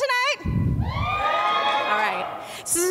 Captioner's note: audience cheers